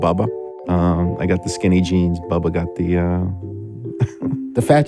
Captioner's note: laughs